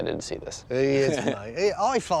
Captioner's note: laughs